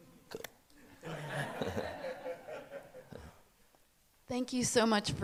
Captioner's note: audience laughing